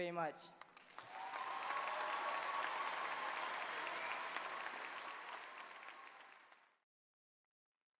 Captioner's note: applause